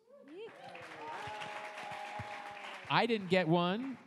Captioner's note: audience applauds